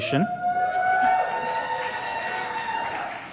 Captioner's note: cheers, applause